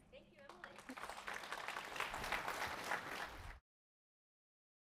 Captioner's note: applause